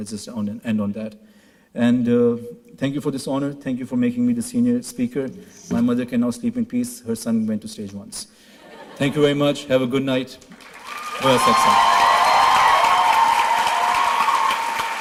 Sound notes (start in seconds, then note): 8.6 laughter; 10.4 applause, shouts